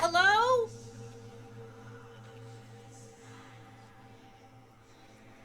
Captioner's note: eerie whispering